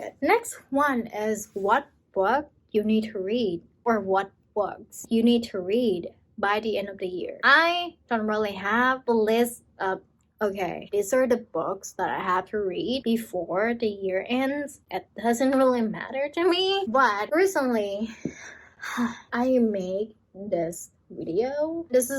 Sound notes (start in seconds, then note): 18.5 sighs